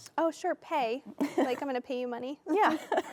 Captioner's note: laughing